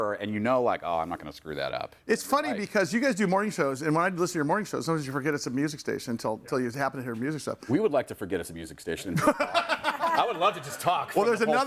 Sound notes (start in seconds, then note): 9.2 laughs